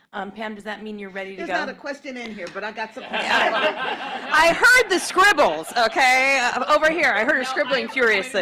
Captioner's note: laughter